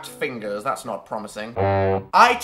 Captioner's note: sound effect